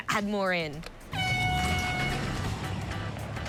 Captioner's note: horn blows